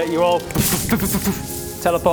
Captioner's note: portal noises